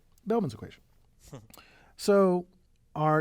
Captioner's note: laugh